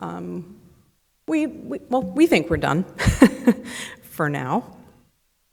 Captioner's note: laughs